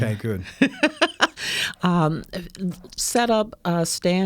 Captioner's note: laughing